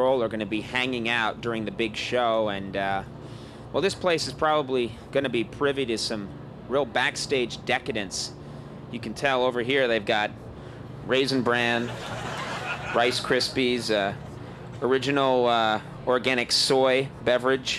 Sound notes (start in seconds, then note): 11.6 audience laughing